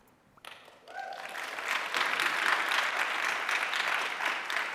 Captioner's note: audience applauding